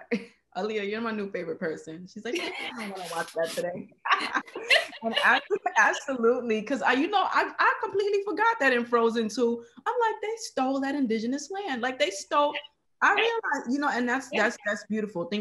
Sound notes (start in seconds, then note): 4.1 laughing